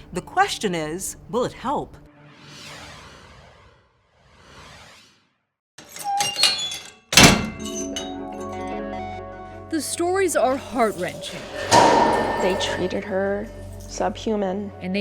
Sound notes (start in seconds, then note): 5.9 door squeaking